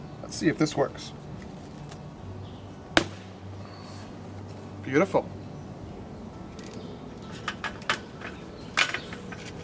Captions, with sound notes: Let's see if this works. (snap) Beautiful.